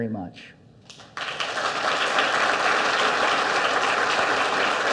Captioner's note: audience applauds